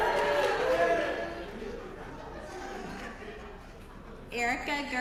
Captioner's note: applause